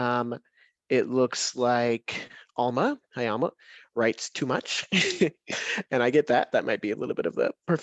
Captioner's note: chuckles